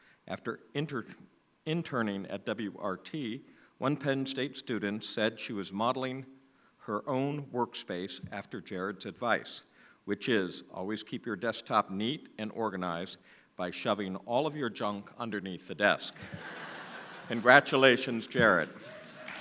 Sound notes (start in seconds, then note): 16.2 laughing